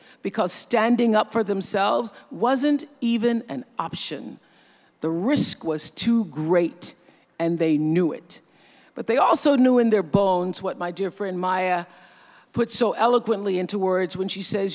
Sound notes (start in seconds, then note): none